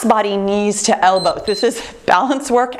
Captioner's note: timer beeps